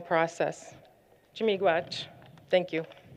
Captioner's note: non-english